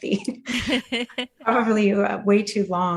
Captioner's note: laughter